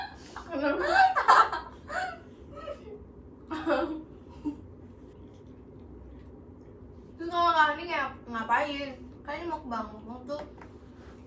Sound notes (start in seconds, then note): 0.5 laughs